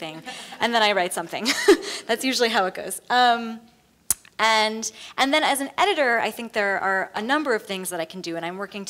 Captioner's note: laughs; laughs